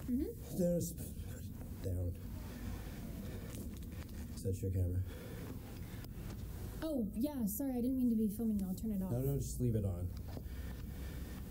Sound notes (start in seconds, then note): none